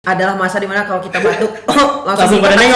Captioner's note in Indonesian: uhuk